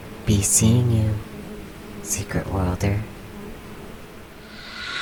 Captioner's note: buzzing and noise fades